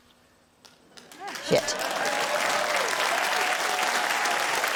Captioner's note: cheering, applause